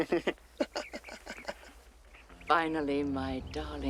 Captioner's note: laughter